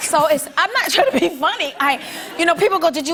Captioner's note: laughter; light laughter